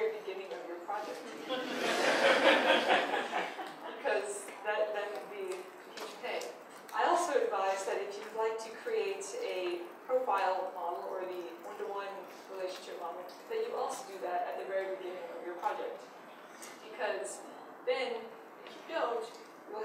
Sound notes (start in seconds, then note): 1.4 audience laughs